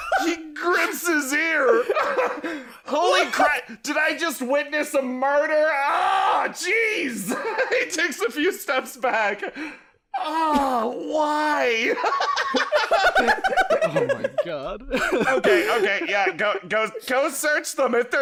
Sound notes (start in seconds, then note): 11.8 laughter